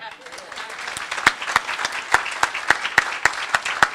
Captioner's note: applause